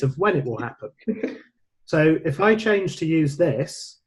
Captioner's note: laughing